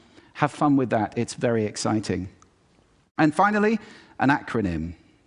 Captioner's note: none